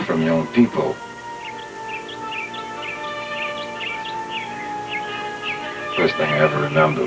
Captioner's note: birds chirping